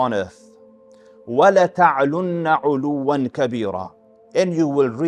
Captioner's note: Arabic